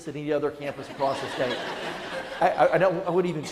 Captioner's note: audience laughing